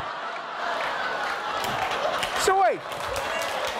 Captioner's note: audience laughing